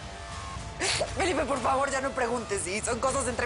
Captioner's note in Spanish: Sollozando